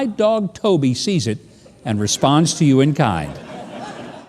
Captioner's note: audience laughing